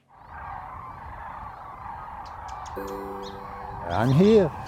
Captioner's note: cranes calling